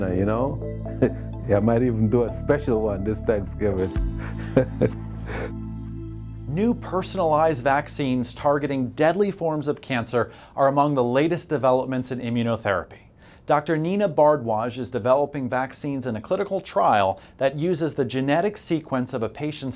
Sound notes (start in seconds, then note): 4.2 laughter